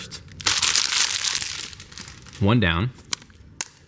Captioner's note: crumpling plastic